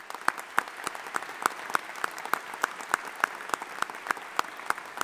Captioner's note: audience applauding